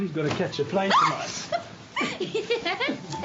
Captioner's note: shrieks and laughs